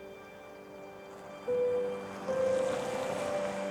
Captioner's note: truck zooms